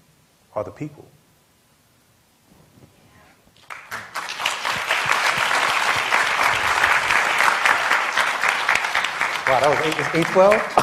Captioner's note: applause